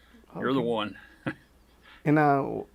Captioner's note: chuckles